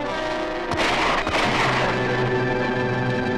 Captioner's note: gun shots ring out!